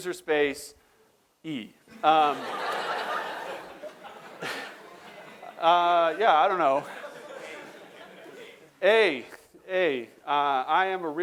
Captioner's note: laughter